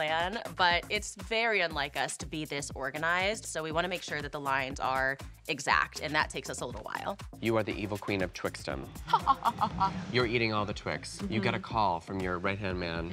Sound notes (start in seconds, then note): 8.9 cackles